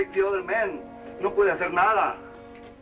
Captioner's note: Spanish spoken audio